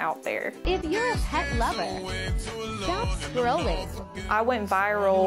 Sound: voiceover

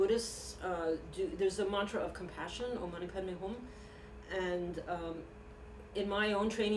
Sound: non-english speech

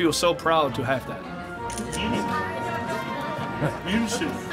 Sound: camera shutter clicks; speaking foreign language

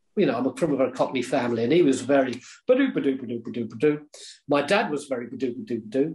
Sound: makes noises in rhythm

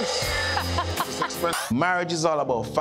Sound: Erica laughs

